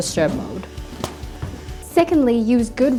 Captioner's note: thump